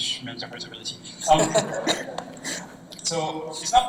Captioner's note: laughter